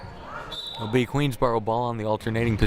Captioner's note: whistle blaring